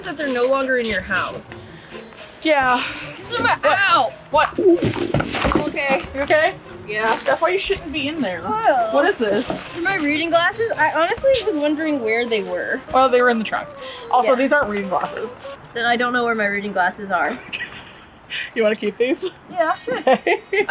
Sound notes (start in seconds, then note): 4.8 thunks in the trunk; 8.4 groans; 19.4 laughing; 19.4 laughs